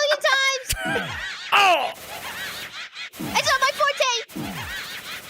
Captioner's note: laughs and groans